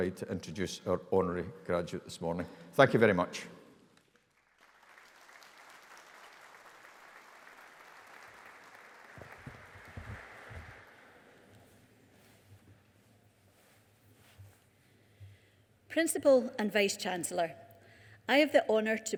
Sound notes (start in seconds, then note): 4.1 audience applauding